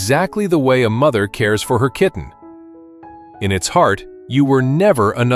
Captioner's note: thoughtful